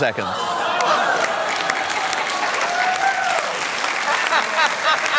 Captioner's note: laughter, applause